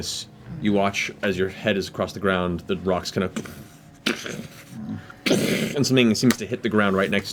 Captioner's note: impact sound